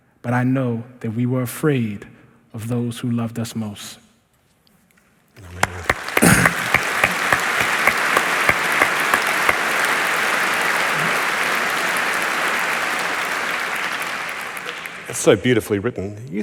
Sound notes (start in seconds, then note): 5.4 applause